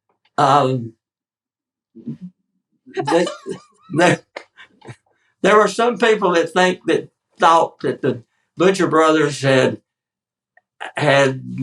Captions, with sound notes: [laugh] . There were some people that think that—thought that the Butcher brothers had, had—